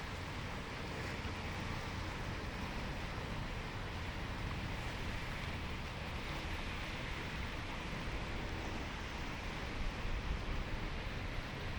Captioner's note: water flowing